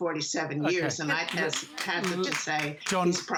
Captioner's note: applause